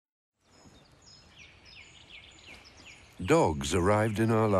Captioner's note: birds chirping